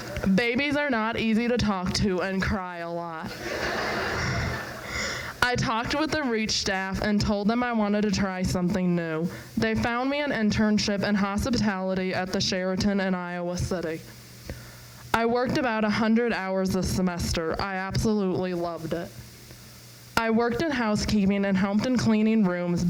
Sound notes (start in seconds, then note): 3.3 crowd laughs